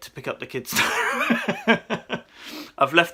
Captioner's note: laughs